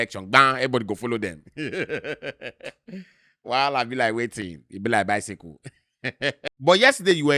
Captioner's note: laughs; laughs